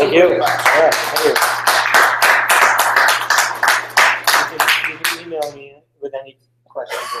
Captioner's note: applause